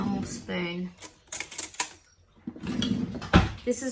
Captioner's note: metal cutlery clatters